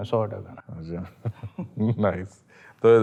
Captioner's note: laughs